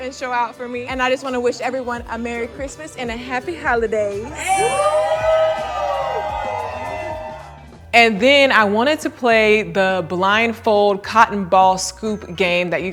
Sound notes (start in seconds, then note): 4.3 friends cheering